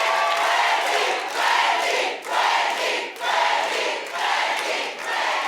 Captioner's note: audience chanting "Wendy"